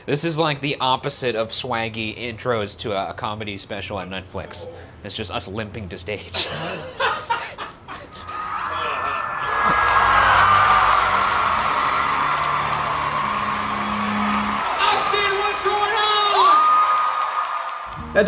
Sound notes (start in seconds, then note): 6.3 laughing; 8.3 crowd cheering; 16.7 audience cheering